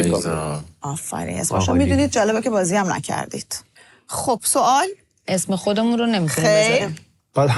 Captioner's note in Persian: none